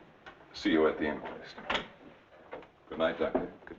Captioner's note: door rattling